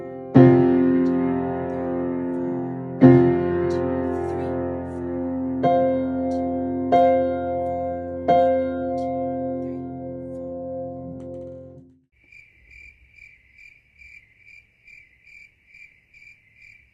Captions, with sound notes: 1, 2, 3, 4, 1, 2, 3! 4 1, 2, 3, 4, 1, 2, 3, 4 (crickets chirp)